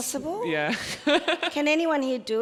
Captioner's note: laughs